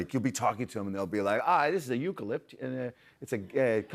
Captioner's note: Australian accent